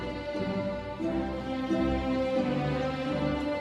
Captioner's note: none